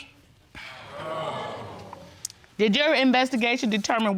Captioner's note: audience exclaims